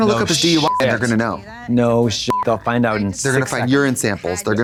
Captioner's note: beep